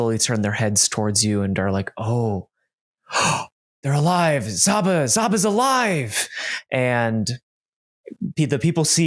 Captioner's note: gasps